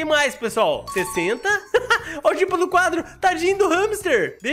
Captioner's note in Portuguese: risos